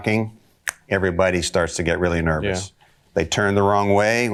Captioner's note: snaps fingers